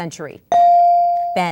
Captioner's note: ding